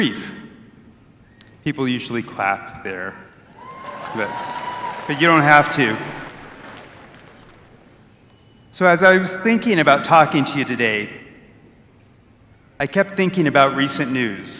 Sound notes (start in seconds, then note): 3.6 applause